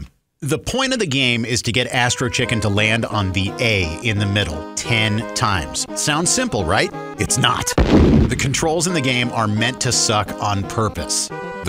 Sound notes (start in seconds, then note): 7.8 boom!